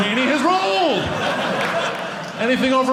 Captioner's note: audience laughing